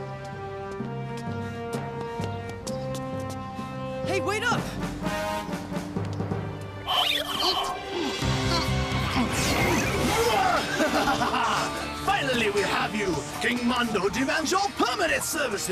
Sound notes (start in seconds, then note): 9.1 evil laughter